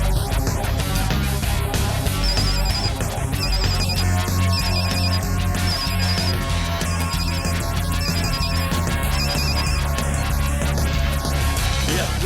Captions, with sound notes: (phone ringing) - Yeah, Lawless?